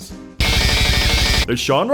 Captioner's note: computergrind intensified